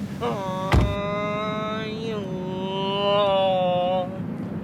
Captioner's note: car door bangs